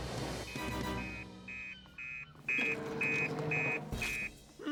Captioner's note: fax Machine Beeping